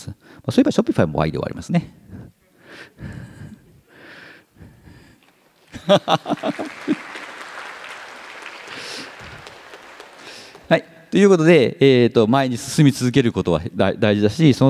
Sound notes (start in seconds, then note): 5.3 applause; 5.7 laughs